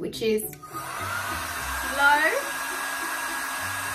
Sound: blow dry sound

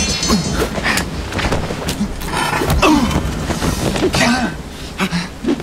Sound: metal rattling; tussling

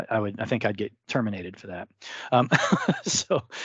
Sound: laughs

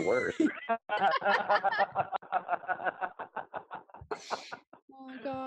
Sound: laughs

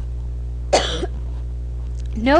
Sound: cough

